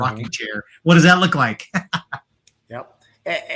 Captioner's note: laughs